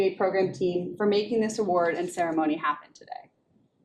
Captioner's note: none